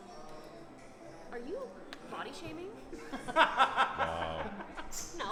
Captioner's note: laughing